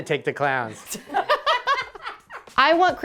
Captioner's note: laughs